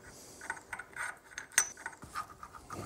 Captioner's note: metallic sounds